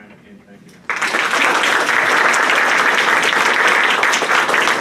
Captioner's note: applause